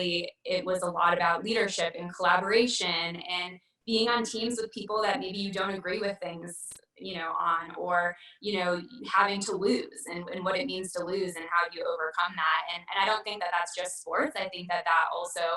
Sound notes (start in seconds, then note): none